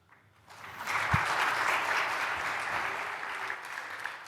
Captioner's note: applause